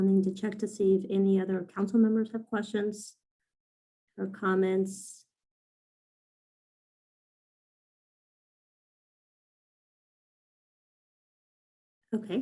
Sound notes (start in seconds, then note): 5.4 silence